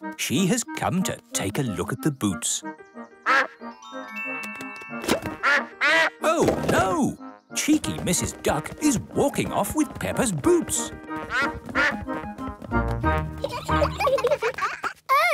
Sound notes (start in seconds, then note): 3.2 quacking; 11.2 quacking; 13.2 children laughing